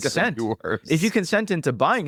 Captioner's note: laughs